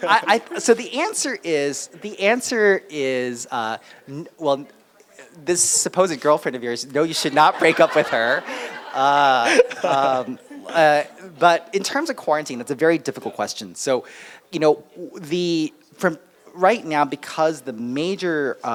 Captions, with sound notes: - So the answer is Well, this suppose a girlfriend of yours, no, you should not break up with her. [audience Laugh] - But in terms of quarantine, it's a very difficult question. So, you know, from right now because the major